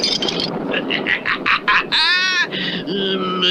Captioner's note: Simon Bar Sinister Laughs